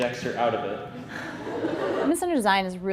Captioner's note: laughing